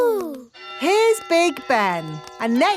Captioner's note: clock chimes